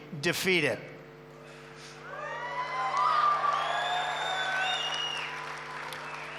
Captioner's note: applause